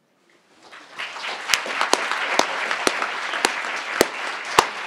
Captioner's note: crowd applauding